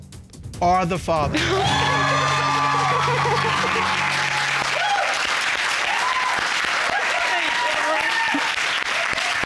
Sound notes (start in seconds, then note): 1.3 audience cheer; 1.4 sobs